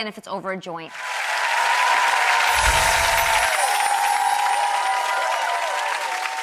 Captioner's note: audience applauding and cheering